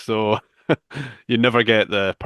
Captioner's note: chuckles